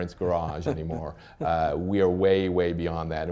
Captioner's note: laughter